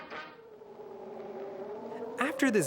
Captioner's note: gusting